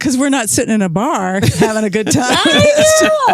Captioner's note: laughs